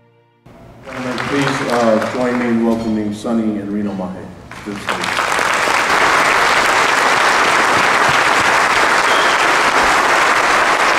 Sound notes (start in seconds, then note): 7.3 audience applause